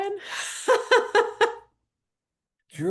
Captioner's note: laughter